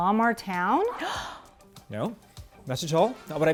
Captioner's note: Mary-April gasps